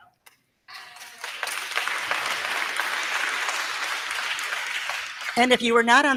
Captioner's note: crowd cheering; crowd clapping